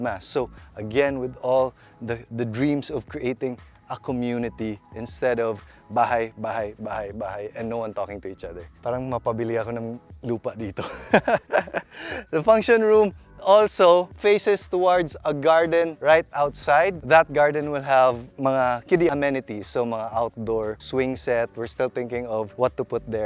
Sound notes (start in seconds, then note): 10.8 laughs